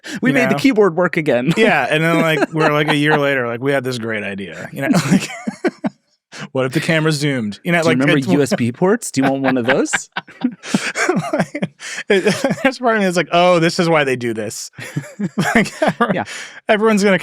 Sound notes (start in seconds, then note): 6.0 laughs; 10.9 laughing